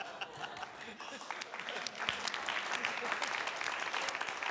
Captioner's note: panelists laugh; panelists applaud